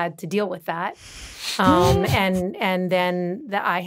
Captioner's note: chuckling